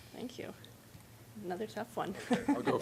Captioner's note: laughing